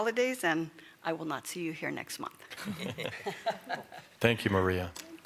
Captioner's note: laughter